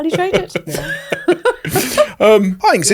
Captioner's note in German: lacht